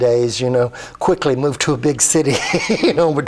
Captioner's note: laughs